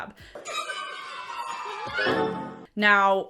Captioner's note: laughing